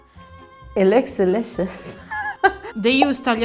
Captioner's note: laughs